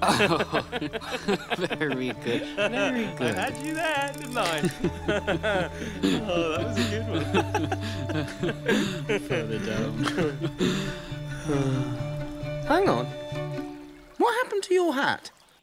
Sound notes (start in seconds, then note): 0.0 they both laugh; 4.0 more laughing; 10.0 laughter and then a sigh